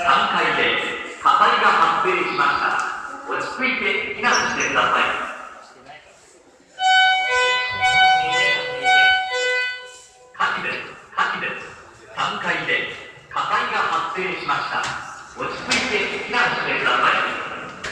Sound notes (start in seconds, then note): 6.8 signal Sound